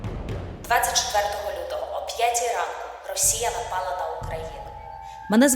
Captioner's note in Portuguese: ucraniano